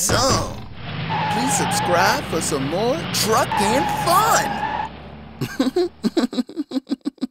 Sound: chuckles

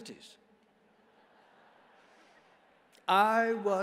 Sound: congregation laughs

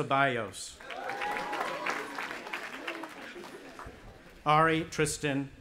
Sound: audience applauding and cheering

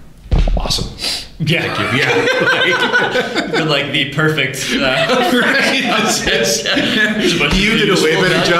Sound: laughter

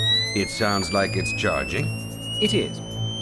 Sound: high-pitched whine

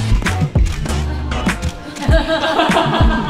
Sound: can't stop laughing because of the staffs' cheers

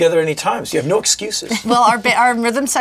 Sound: chuckles

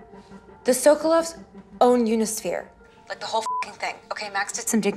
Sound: beeps

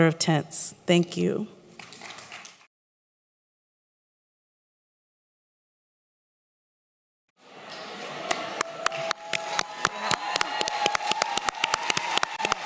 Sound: applause

